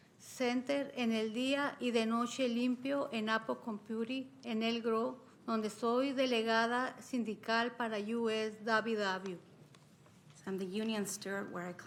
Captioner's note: speaking spanish